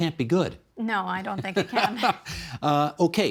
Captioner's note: laughing